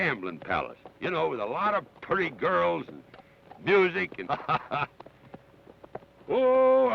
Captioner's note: laughs